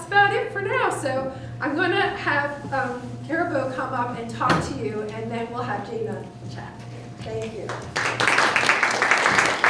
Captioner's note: applause